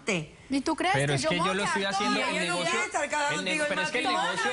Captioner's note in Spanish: Hablan al unísono